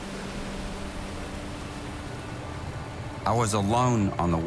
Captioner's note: boat engine hums